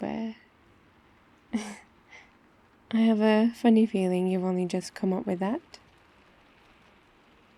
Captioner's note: laughs